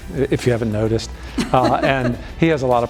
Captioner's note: laughing